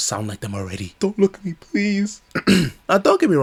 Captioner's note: cough